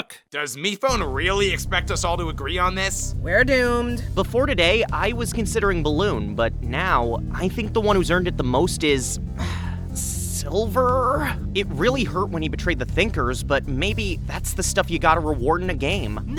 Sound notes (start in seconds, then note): 9.4 sigh